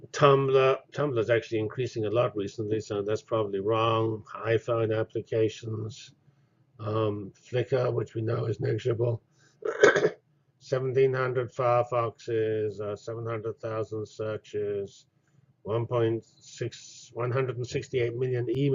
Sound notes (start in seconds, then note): 9.6 cough